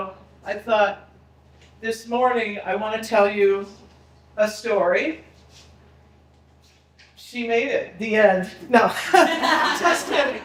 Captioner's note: people laughing